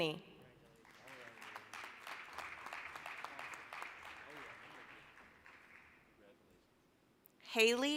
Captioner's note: applause